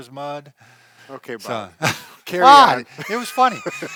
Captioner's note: laughs